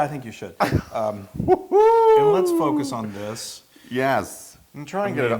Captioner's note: laugh